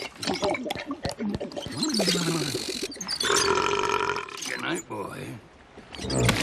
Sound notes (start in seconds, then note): 0.1 glug-glug-glug-glug; 3.2 burrrp